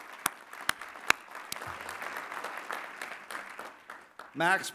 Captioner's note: applause